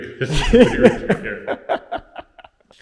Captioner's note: laughs